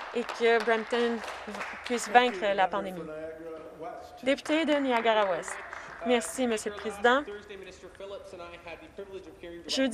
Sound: some Applause

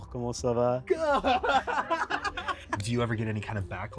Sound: laughs

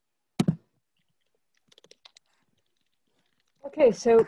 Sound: clicking

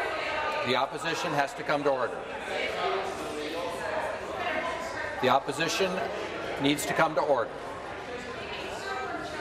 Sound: voice fading

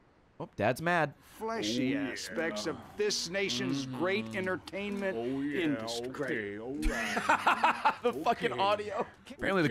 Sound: laughs

